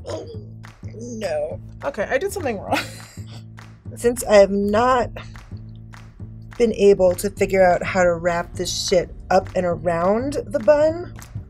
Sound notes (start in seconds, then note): 0.0 cool jazz music; 2.7 snickers